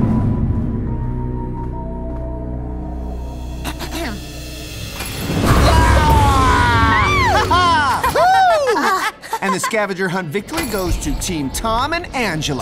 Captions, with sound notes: [spooky music] A-herm. Aagh! -Ha-ha! -[Angela laughing] And the scavenger hunt victory goes to Team Tom and Angela!